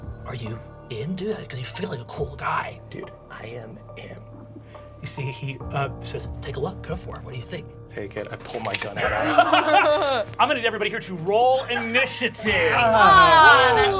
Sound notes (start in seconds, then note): 8.9 group laughing